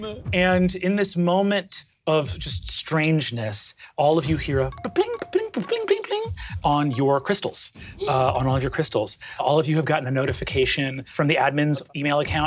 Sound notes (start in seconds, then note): 4.9 mimics phones dinging